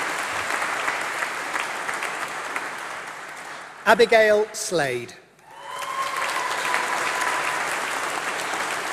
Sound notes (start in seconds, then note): 5.4 applause